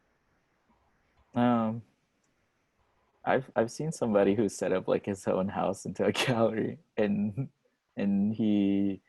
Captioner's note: laughs